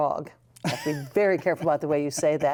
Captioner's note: laughter